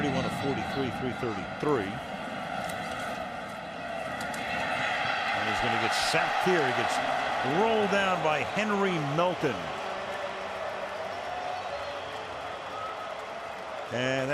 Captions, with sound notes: Brees, 31 of 43, 333. [cheering] There's going to be a sack here. He gets rolled down by Henry Melton. [pa announcement]